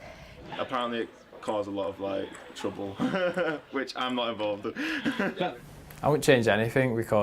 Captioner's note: laughs